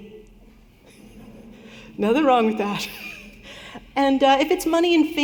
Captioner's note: laughter